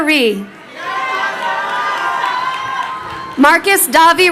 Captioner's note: crowd cheering